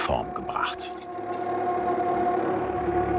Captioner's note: whirring